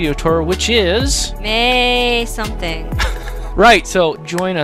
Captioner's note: laughing